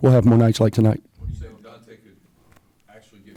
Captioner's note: voiceover